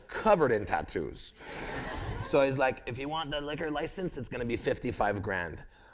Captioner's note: laughter